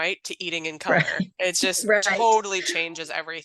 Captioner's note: laughs